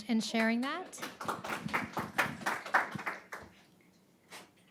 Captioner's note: audience applauds